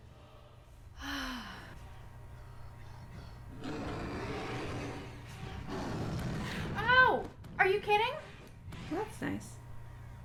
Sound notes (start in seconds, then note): 1.0 sigh